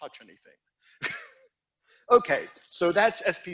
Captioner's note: instructor chuckling